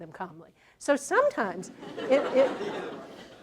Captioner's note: laughter